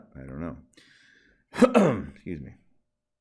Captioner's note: coughs